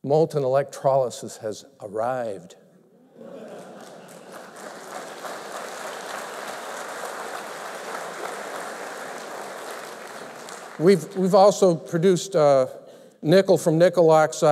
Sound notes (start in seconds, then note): 6.4 applause